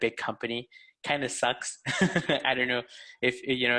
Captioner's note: laughs